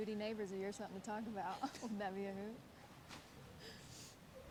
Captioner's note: chuckles